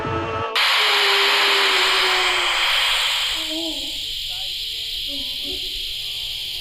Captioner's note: Clint groaning; static hissing loudly